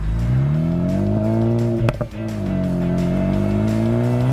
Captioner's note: car engine revving